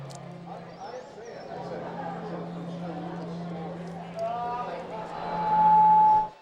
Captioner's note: microphone feedback buzzes; Gene speaking faintly